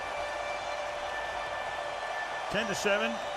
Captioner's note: siren sounds